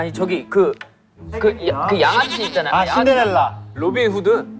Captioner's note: mispronunciation